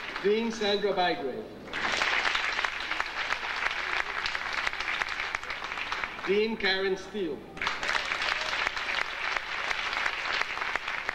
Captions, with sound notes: Dean Sandra Bidway. (audience applauding) Dean Karen Steale. (audience applauding)